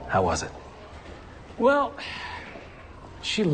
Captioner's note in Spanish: Suspiro